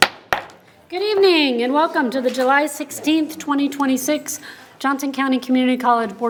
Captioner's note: gavel taps